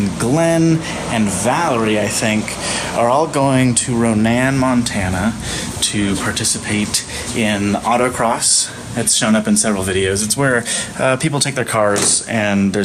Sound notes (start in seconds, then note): none